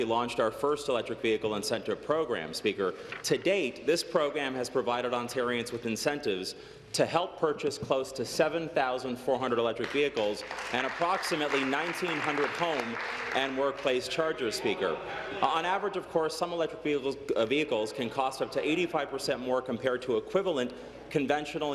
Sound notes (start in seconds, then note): 14.3 applause